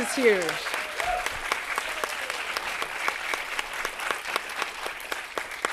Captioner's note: audience cheering and applauding